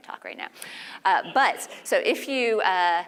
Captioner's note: laugh